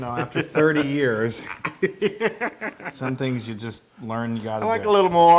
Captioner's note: laugh